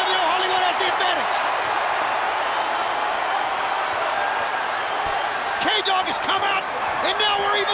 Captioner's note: applause